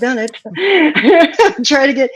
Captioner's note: laughing